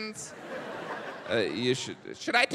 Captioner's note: audience laughs